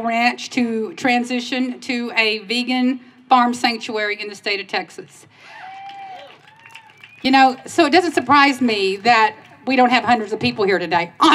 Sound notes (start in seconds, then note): 5.4 cheers